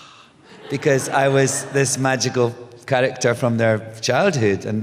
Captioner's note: laughter